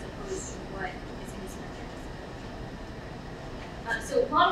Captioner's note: speaking away from mic